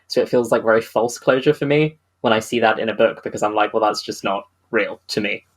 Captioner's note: none